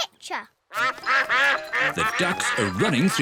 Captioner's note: quacking